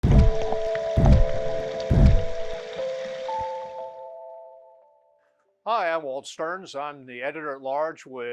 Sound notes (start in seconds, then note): 0.0 electro music; 0.0 underwater splashing